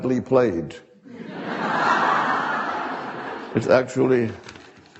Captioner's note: audience laughing